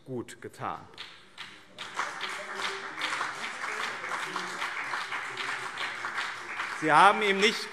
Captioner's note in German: Beifall BÜNDNIS 90/DIE GRÜNEN und CDU